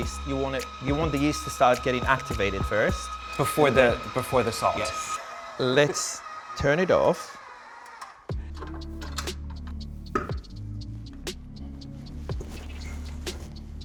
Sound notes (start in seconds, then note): 8.6 items clanking; 10.1 mellow rhythmic music